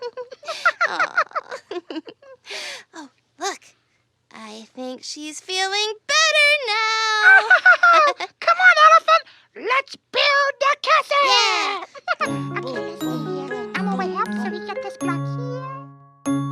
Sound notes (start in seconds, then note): 0.0 laughs; 7.2 laughs; 11.3 laughs; 12.2 soft music